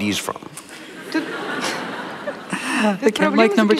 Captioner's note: laughter